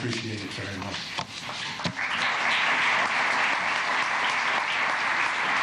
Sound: applause

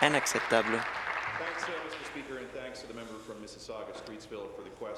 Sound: applause

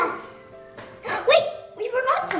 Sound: gasps

